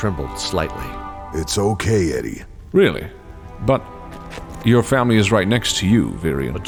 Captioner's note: soothingly